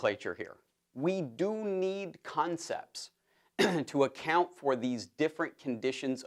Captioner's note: cough